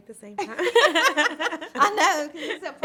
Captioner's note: laughter